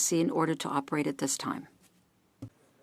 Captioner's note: speaking French